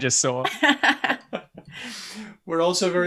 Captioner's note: laughter